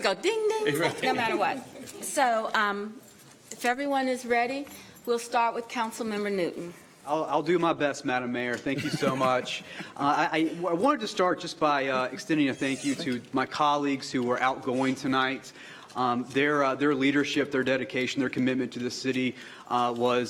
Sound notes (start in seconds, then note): 0.7 laughter; 5.3 laughter